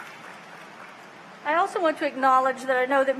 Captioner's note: applause